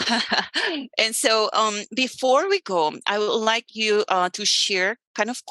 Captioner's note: laughs